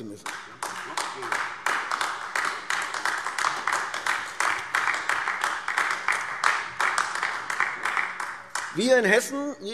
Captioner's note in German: Beifall AfD